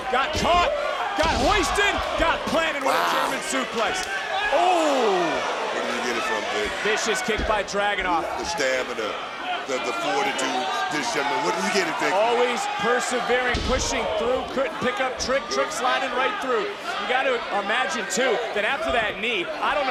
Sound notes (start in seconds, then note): 4.3 Trick exclaiming; 5.4 crowd Oohing